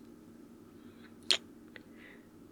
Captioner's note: kiss